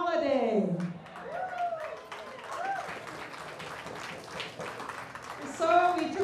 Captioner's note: cheers and applause